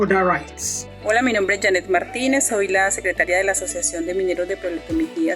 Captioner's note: speaks in foreign language